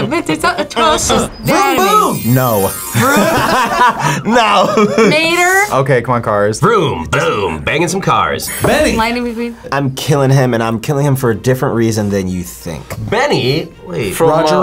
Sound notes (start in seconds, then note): 2.6 both laugh; 2.7 laughs